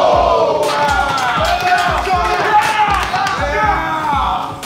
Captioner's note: shouting